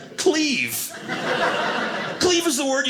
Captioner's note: audience laughing